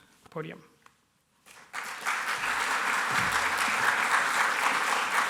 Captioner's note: applause